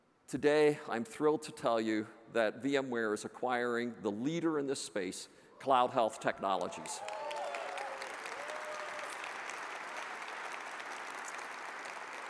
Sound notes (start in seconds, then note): 6.6 audience cheers and applauds